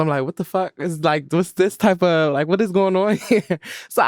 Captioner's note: laughs